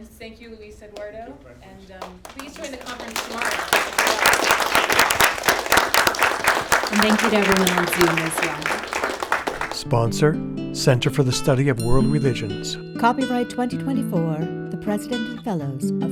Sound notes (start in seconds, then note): 3.7 applause